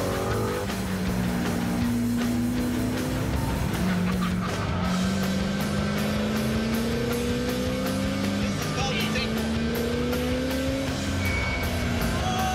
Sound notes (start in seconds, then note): 0.2 engine accelerating; 3.8 laughing